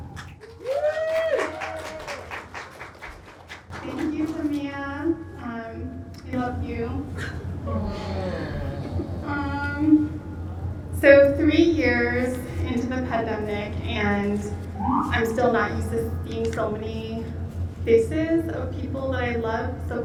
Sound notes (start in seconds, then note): 0.0 audience cheering and applauding